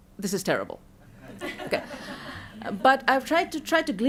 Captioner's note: laughter